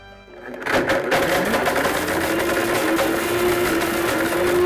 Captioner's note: blender crunches